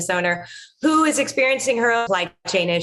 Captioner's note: audio distortion